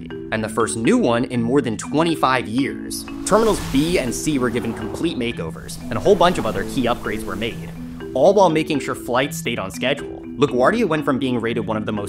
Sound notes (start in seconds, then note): 3.0 air whooshes